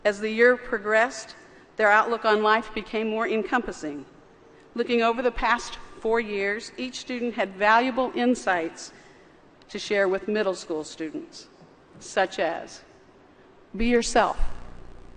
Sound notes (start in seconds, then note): none